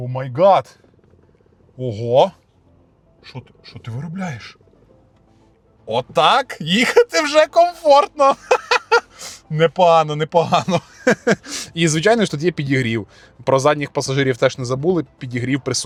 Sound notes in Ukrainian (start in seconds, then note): 11.2 сопіння; 11.2 сміх